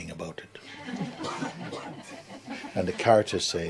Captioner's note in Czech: smích